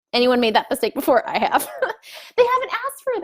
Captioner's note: laughs